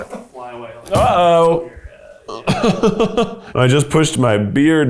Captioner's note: laughs